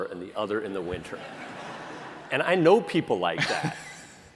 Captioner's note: laughter